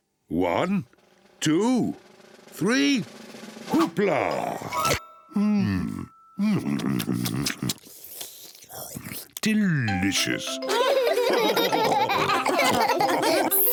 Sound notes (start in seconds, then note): 6.6 slurps; 10.6 all laughing